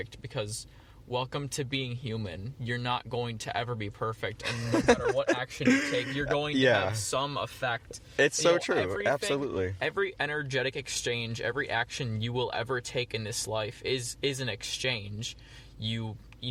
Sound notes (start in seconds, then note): 4.4 laughs